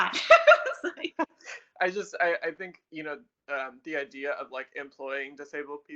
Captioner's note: laughs